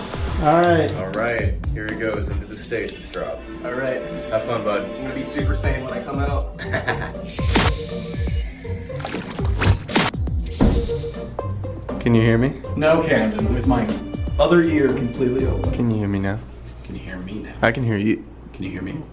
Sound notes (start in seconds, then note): 6.5 laughs